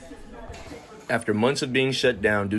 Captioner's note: people chatting